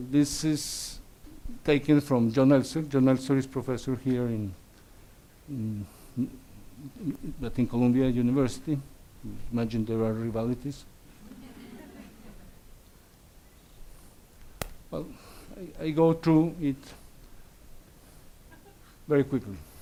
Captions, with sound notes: This is taken from Donaldson. Donaldson is professor here in Columbia University. I imagine there are rivalaties. (audience laughs) I go through it very quickly,